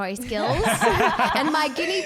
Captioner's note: laughing